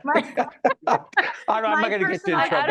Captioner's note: laughing